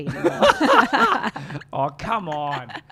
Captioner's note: both laughing